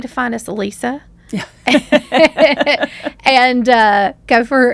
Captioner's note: laughs